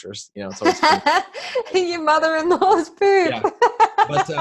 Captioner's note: laughing